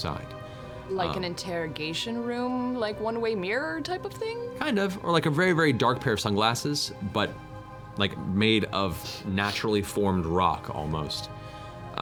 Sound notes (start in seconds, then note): none